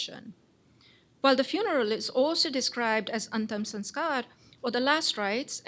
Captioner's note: non-english